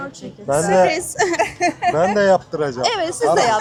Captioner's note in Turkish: kahkaha